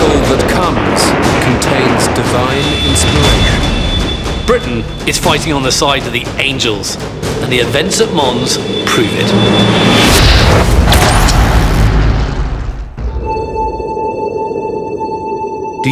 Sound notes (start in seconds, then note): 9.9 dramatic music; 9.9 electricity sizzling; 13.0 suspenseful music